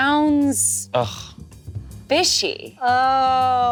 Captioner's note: groans